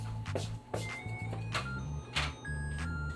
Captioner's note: oven timer goes off 🔔